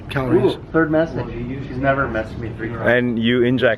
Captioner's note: background mumbling